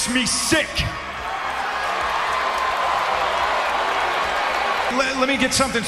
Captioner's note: crowd cheering